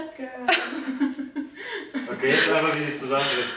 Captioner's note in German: alle lachen